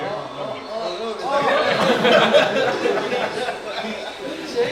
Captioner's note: general chatter